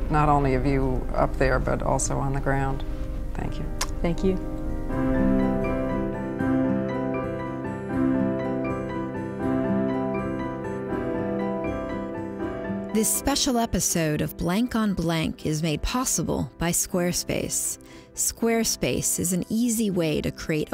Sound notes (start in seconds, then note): 5.2 inspirational instrumental music; 13.1 voiceover